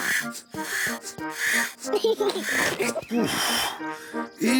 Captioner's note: giggles excitedly